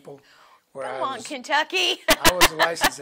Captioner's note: laughs